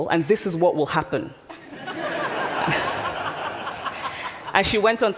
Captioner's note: laughter